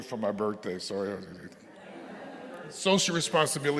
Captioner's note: audience laughing